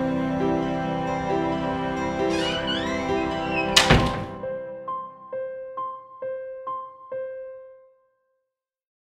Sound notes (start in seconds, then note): 2.2 sound: door closes